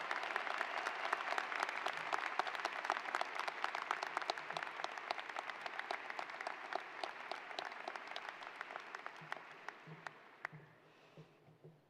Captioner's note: applause